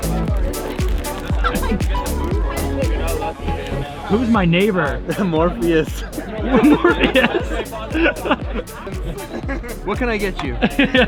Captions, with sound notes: (upbeat techno music) - Who's my neighbor? - Morpheus. - Morpheus? (laughs) - What can I get you?